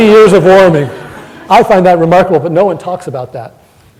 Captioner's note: laughter